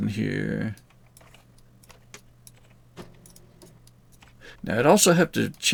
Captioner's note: mouse clicking